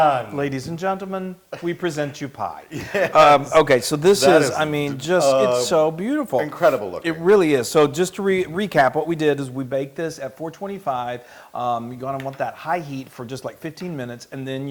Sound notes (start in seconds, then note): 2.7 laugh